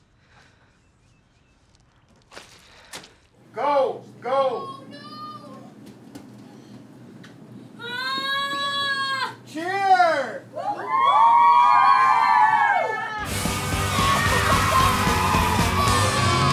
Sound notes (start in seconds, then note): 10.6 crowd cheering; 13.2 energetic music